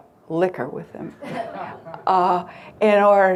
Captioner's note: crowd lightly laughing